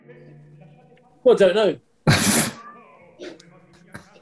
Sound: spluttering laughter

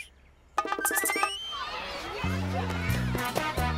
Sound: children chattering

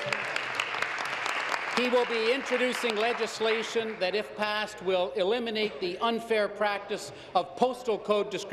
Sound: applause

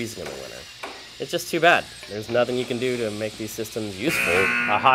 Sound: buzzer

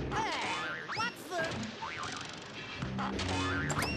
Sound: crashing

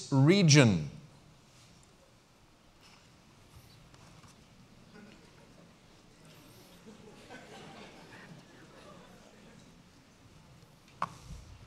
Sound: pause

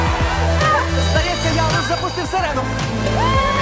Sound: cheering; school alarm ringing

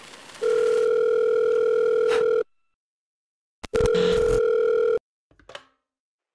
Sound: phone Ringing

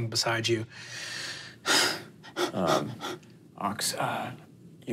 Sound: panting

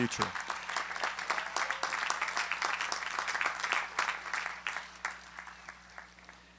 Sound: applause

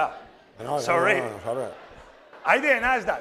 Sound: speaking spanish

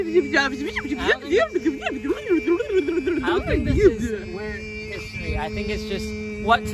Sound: imitates fast-forward sound

